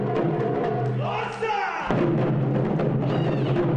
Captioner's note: shouts Japanese phrase in unison